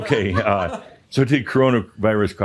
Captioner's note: some chuckles